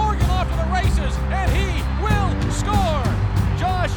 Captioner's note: Sports announcer audio from Virginia Tech football game